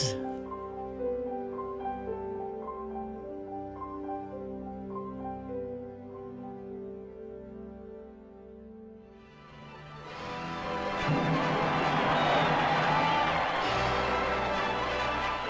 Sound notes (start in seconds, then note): 0.0 gentle music; 10.5 crowd cheering